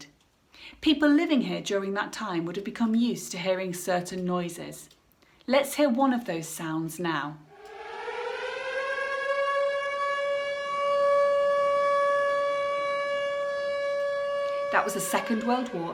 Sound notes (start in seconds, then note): 7.4 air raid siren